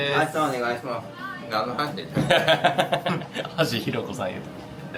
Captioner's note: laugh